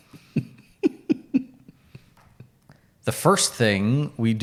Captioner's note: chuckles